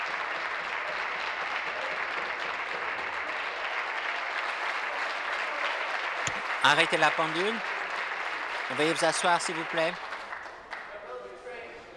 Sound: applause

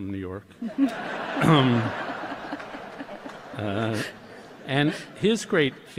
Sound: laughter

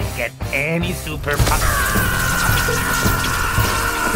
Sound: screams

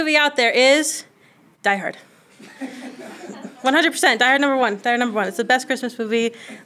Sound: laughter

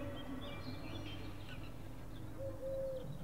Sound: birds Chirping Continues

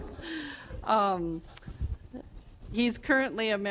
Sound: audience laughter

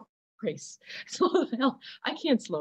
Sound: laughter

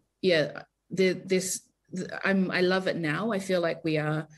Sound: stammers

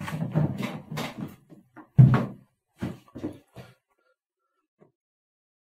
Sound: scuffling in background

